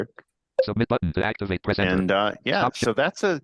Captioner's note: computer generated voice